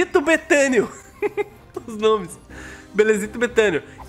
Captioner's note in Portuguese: risos